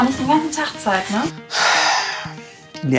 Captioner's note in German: Er seufzt